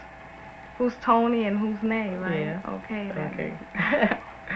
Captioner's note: laughter